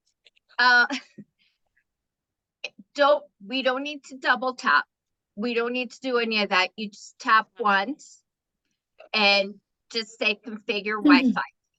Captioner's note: chuckling